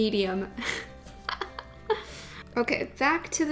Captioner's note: laughs